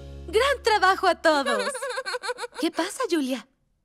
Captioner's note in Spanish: risas